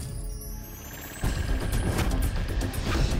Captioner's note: tyres approaching